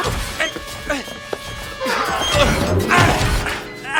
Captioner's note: grunting; gasps